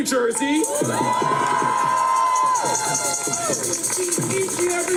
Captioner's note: cheers